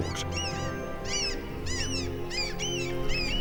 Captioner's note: gull cawing